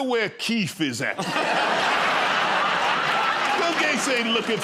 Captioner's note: laughter